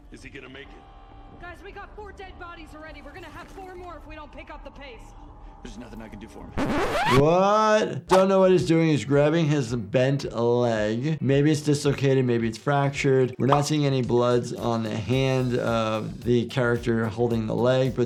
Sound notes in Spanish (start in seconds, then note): 6.6 sonido chirriante de la cinta